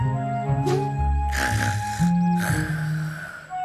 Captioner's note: snoring